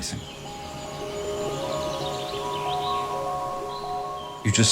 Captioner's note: nature sounds